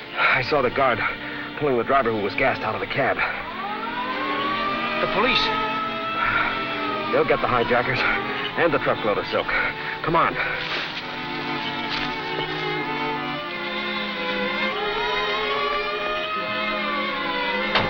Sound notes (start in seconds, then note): 3.8 sirens blaring; 14.9 sirens blaring